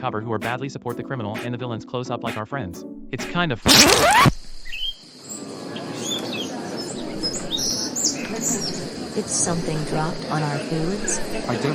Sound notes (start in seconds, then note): 3.5 record Scratch Sound; 4.7 mockingbird Sound